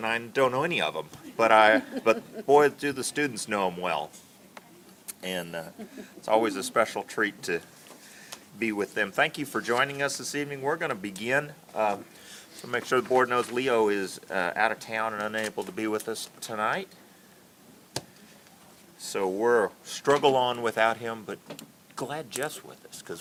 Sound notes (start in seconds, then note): 1.3 laughter